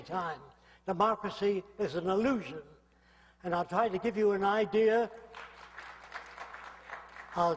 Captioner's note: applause